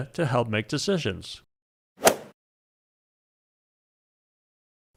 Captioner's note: golf swing sound effect